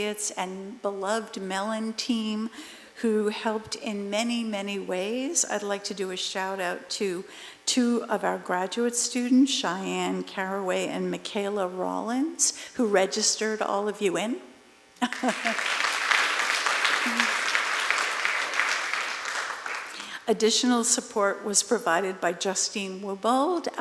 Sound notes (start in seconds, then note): 15.0 applause